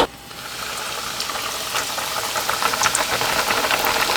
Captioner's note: sizzle sizzle